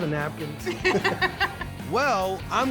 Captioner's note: laughter